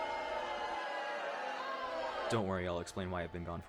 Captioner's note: boos